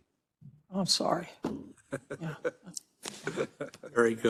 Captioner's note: laugh